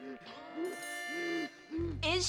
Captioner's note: whzieeng